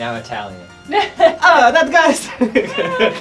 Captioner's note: in a shitty Italian accent